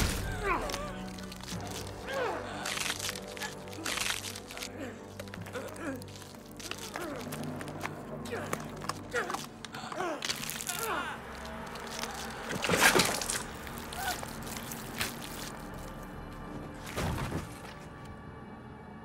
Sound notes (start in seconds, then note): 0.0 Luther grunts; 2.2 bones crunching; 5.4 Kira groaning; 11.7 blood splattering; 16.8 body thuds